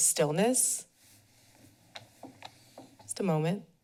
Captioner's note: pause